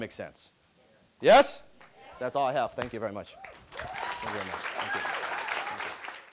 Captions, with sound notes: Does that make sense. Yes? That's all I have. Thank you very much. (audience applauding)